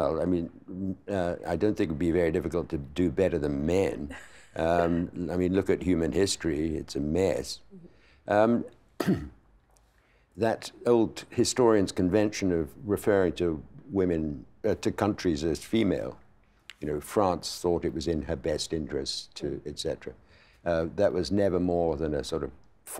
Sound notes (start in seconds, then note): 3.9 laughing